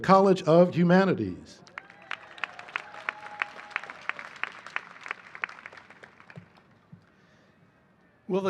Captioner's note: applause